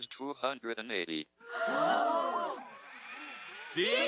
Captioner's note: crowd gasping